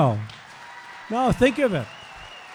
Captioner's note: applause